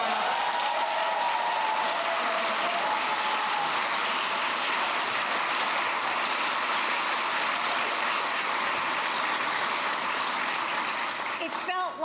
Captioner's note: applause